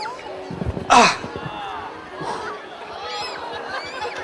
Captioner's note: strains